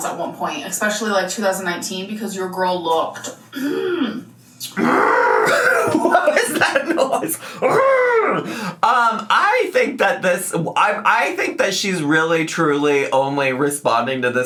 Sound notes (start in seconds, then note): 3.6 humming; 7.6 humming